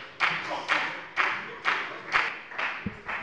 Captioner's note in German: Beifall bei der FDP